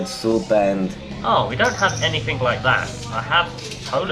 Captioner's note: awful Voice